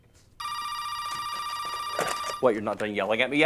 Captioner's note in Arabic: رنين الهاتف